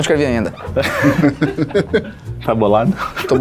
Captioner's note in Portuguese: risadas